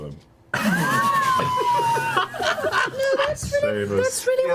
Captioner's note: all laugh